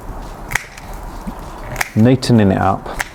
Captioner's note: pruner snipping